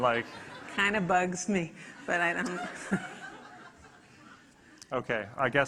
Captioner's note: audience laughing